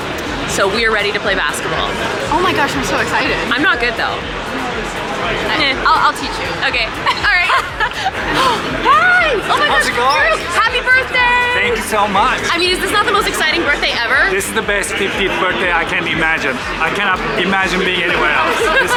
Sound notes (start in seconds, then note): 7.0 both laugh; 8.0 gasps